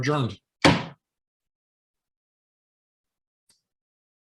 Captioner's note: gavel bangs